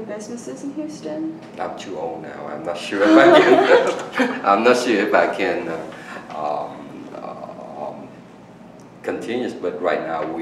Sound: all laugh

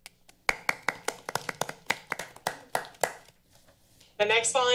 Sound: members applauding

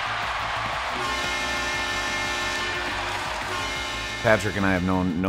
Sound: cheering; buzzer

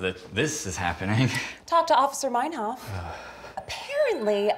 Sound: Ichabod groans

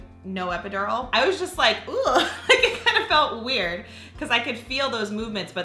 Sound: laughs

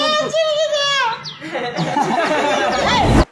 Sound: people laughing

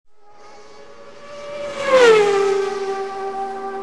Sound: engines whine

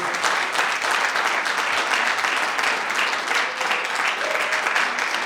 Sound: audience applause continues

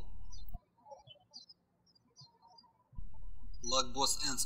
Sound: birds chirping

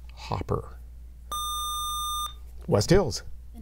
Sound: buzzer

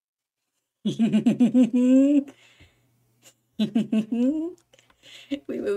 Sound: chuckle

